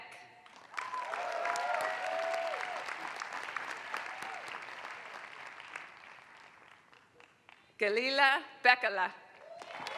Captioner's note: applause; applause